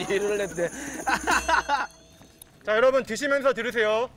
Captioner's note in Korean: 웃음소리